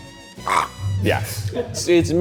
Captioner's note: gags